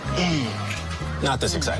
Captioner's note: grunting